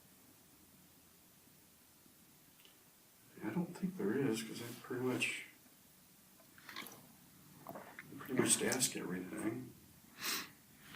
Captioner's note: sighs